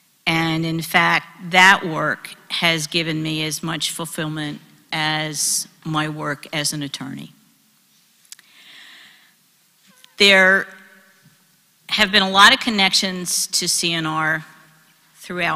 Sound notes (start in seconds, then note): none